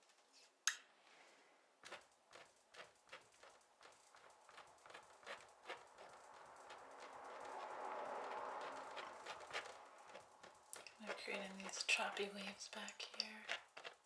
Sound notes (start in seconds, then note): 1.3 clicking